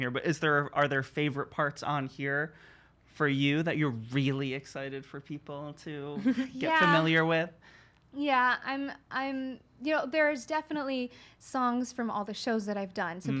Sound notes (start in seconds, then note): 6.2 giggles